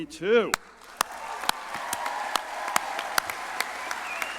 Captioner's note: crowd applauding